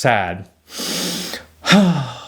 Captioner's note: inhales